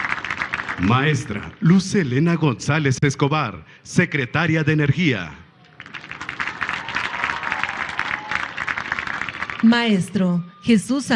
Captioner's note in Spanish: aplausos; aplausos